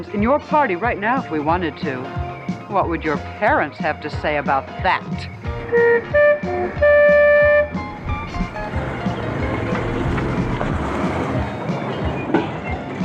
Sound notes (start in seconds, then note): 5.6 horn beeping